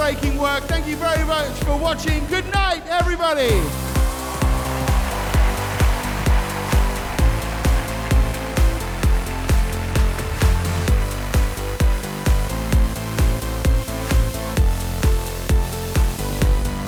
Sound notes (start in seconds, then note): 3.4 audience applauding; 3.5 upbeat music